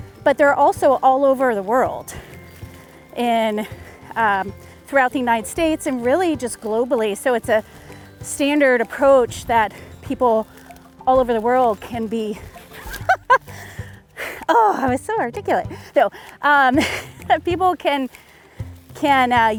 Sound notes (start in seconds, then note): 12.6 laughs